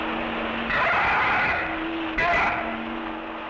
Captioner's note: animal screeching